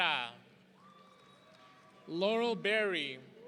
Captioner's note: audience cheering